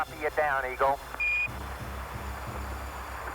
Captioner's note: beeps & Static